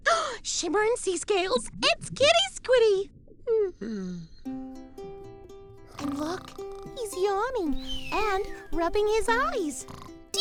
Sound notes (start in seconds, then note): 0.2 gasps; 3.8 yawns; 6.0 snoring